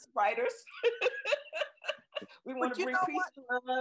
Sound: laughs

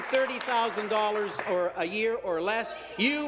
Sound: applause

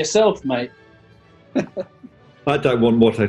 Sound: chuckling

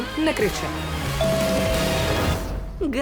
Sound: doorbell rings

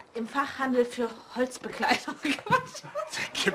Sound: laughs

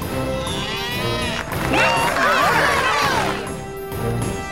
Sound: cheering

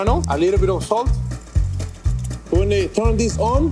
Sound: whisk tapping rapidly

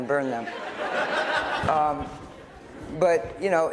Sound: laughter

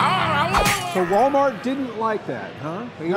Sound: bottle smashes

